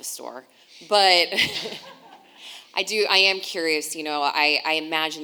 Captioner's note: laughing